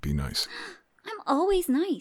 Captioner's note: gasps